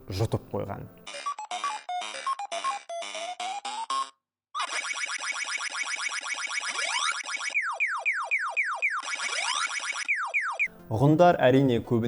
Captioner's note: sounds of PacMan